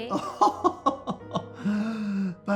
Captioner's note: Oscar chuckles